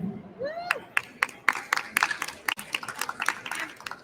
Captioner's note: applause